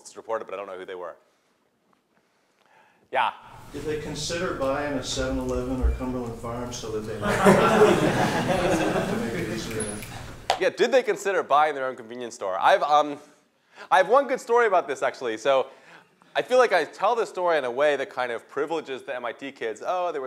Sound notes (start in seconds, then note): 7.2 laughter